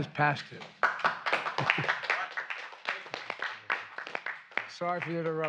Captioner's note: applause